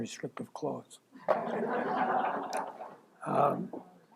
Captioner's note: laughter